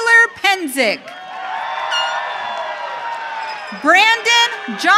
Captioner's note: audience cheering